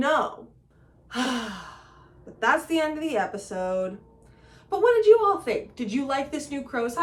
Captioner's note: sigh